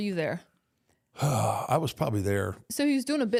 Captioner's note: sighs